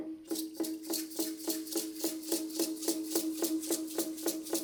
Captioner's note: drums pounding; rattles rattling